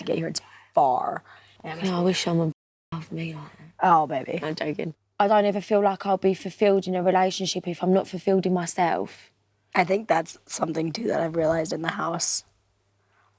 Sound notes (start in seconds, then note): none